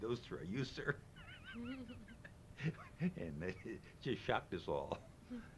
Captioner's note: laughs